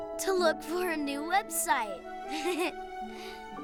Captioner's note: laughs